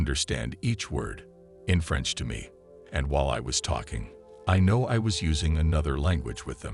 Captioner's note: in French to me